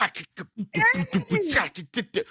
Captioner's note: laughing